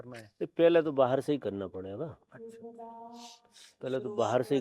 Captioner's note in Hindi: नाक से की जाने वाली आवाज़